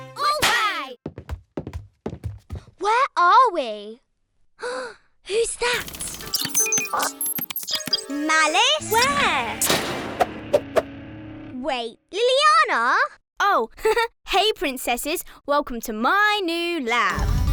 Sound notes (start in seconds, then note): 0.0 triumphant music; 4.6 Olivia gasps; 5.7 machine beeping; 13.7 laughs